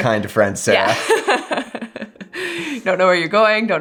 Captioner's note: laughs